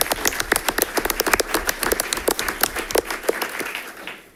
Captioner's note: audience applauding